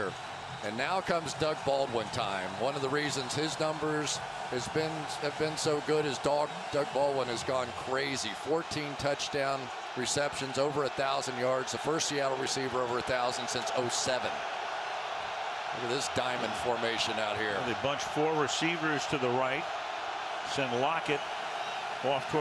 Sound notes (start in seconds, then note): 2.5 cheering